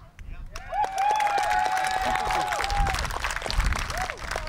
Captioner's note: applause, cheering